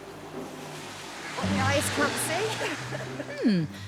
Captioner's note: laughs